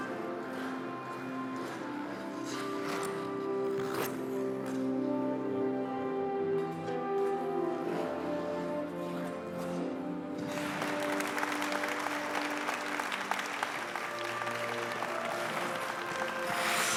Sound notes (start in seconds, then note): 10.4 audience applauding; 14.3 gentle music